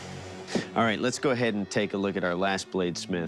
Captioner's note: sighs